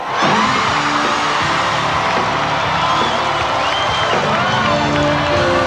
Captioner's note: audience applauding and cheering